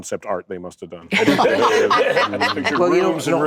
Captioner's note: laughter